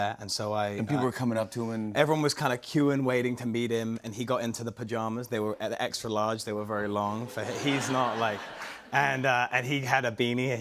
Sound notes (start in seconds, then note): 7.3 laughter